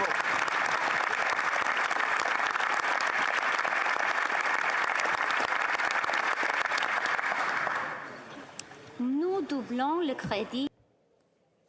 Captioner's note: applause